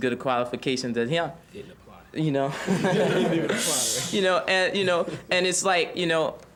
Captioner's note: students chuckling